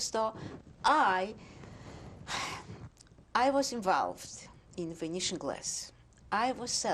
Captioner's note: sighs